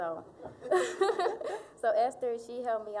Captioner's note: both laughing